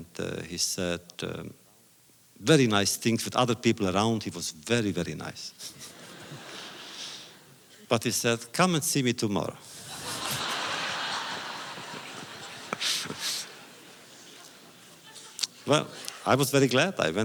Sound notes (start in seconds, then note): 5.6 laughter